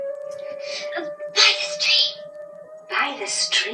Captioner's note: whispers